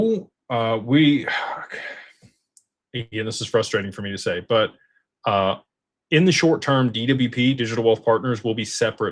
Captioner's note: sighs